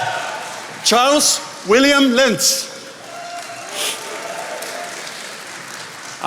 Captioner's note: attendees applauding